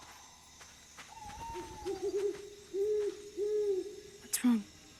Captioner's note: owl hooting